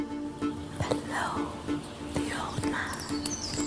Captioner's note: whispers